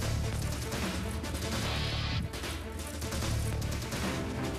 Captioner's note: applause